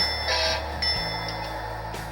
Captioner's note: horn